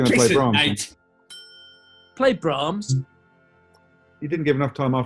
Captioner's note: alexa tone